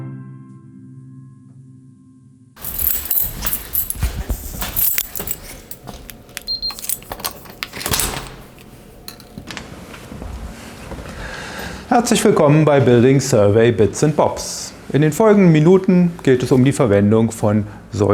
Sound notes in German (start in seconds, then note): 2.6 Schritte, eine Tür wird geöffnet